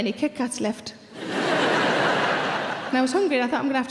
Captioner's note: audience laughing